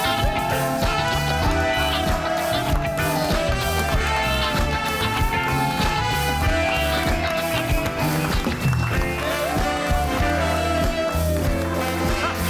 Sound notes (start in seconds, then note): 0.2 audience applauds and cheers; 6.9 audience applauds